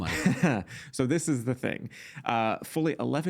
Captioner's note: chuckling